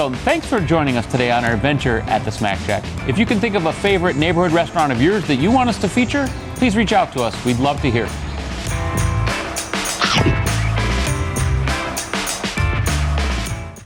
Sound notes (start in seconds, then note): 8.1 cool electric guitar music; 9.9 chomping